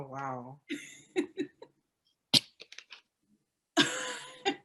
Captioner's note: panel laughing